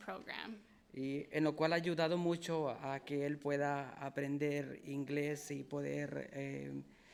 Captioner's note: speaking in foreign language